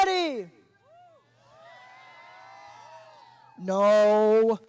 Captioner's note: audience cheering